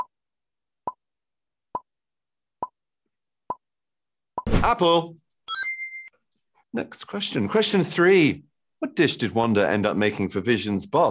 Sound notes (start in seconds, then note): 5.4 chime rings